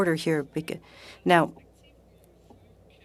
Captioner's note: speaking french